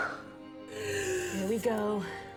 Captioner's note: Serena exhales as she pushes the baby out